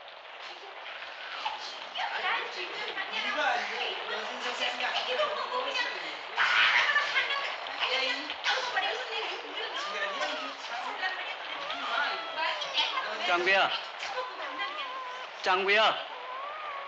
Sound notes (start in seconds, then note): 1.4 Jjang-gu's room, sound of people in a brawl; 9.4 baby cries